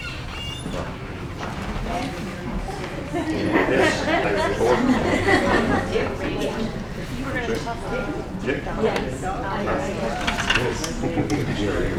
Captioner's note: audience Talking